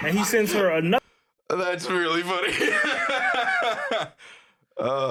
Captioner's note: laughing